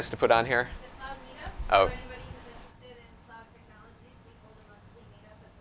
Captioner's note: speaking faintly